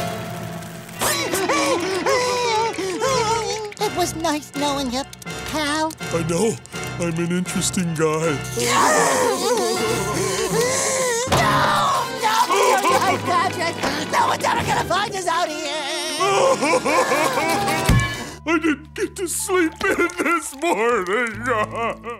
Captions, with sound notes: [crying] - It was nice knowing ya, pal. - I know. I’m an interesting guy. [crying] No! No! Patrick, no one’s ever gonna find us out here! [crying] I didn’t get to sleep in this morning.